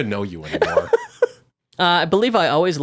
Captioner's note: laughing